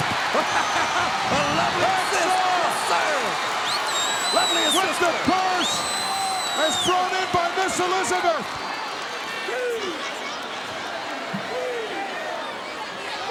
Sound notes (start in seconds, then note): 0.2 laughs